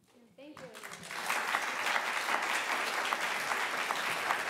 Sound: applause

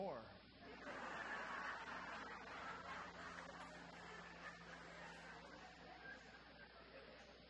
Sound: audience laughter

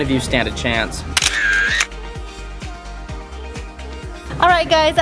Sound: camera clicks

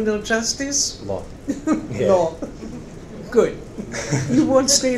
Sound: laughs

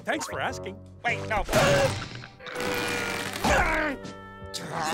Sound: groaning

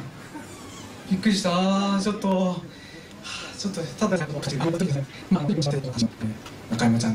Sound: laughs

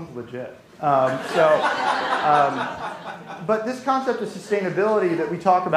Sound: laughter

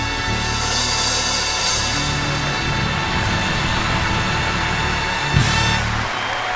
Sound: audience cheering and clapping

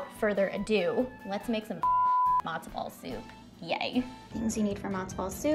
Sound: beep

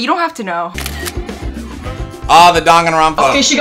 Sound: camera clicks

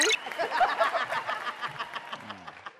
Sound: laughing

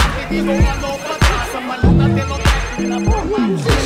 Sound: hip-hop music plays; cellphone ringing

